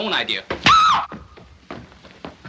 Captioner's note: scream